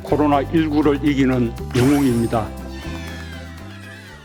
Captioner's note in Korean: 반짝 효과음; 아이들 환호성